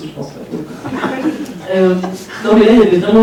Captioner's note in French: rires